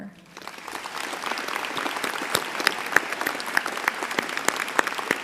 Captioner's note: applause